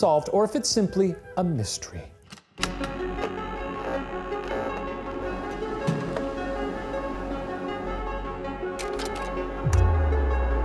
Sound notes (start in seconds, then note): 2.5 gentle suspenseful music; 2.5 slide clicks